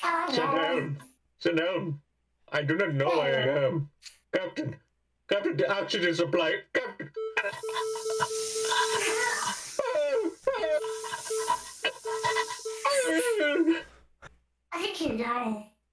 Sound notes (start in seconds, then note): 7.5 chokes cutely